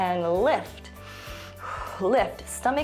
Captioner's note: inhales and exhales